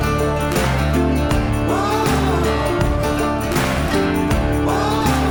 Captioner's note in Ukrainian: оплески